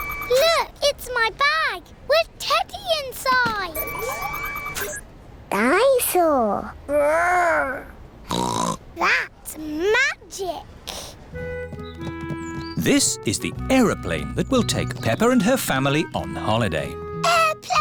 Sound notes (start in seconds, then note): 8.3 snorts